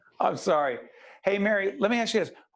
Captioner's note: laughing